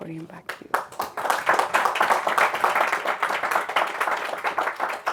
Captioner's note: crowd applauding